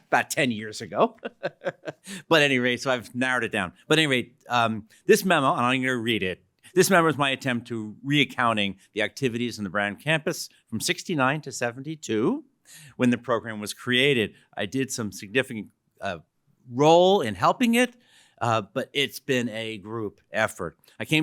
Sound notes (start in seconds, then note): 0.9 laughs